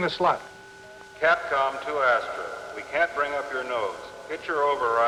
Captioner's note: man on PA